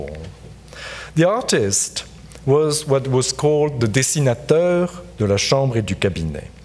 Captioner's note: speaks French